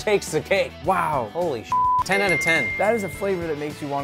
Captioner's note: beep